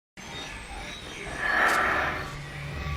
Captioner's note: static